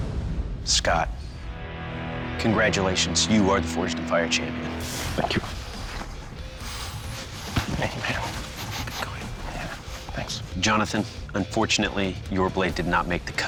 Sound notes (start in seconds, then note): 6.9 quietly; 8.2 whispers